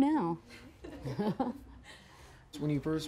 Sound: laughing

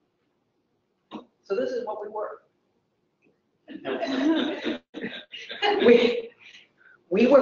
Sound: laugh

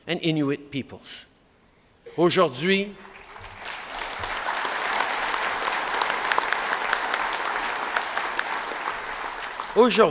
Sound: applause

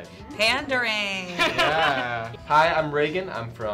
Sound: laughs

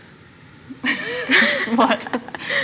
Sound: laughs

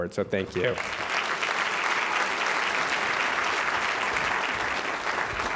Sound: applause

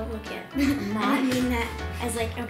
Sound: laughing

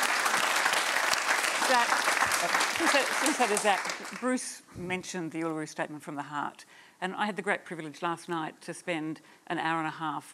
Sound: applause

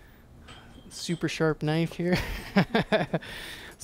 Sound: giggles

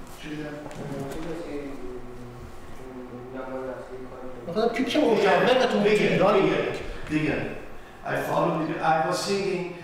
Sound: speaking in farsi

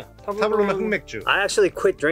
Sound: speaking in Korean

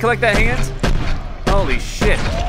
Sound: slow motion gunshots

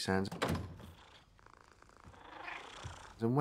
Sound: purring

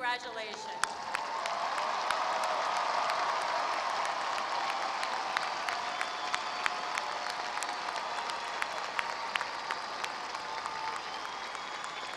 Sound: applause

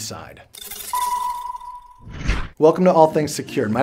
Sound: robotic ringing sound

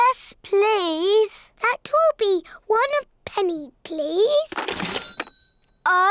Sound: dings

